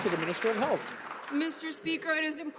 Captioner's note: some Applause